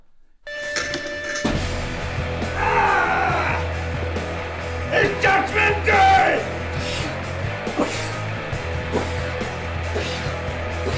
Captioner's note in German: Schreie